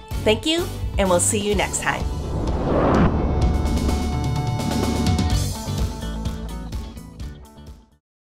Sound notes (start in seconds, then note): 1.6 logo whooshes; 3.1 upbeat music